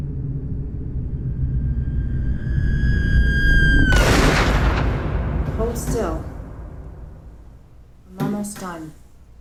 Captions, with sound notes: (screaming) (gunshot) - Hold still, I'm almost done.